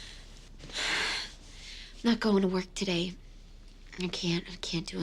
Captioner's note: exhales